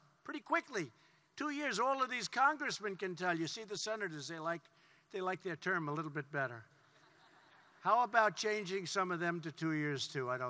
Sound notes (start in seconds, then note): 6.8 laughter